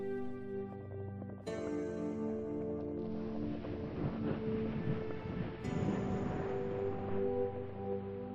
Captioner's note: sound of footfalls in water; sound of an erupting geyser